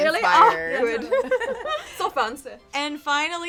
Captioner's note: all giggling